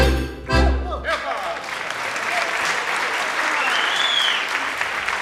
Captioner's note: audience applauding